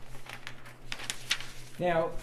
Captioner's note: paper ruffles